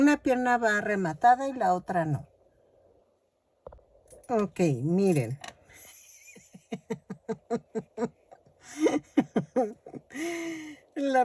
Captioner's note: laughs